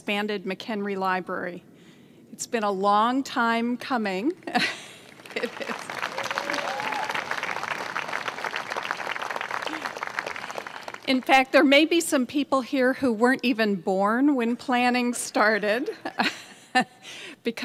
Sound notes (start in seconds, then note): 4.5 laughter and applauding